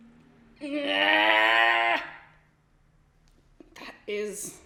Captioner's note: growls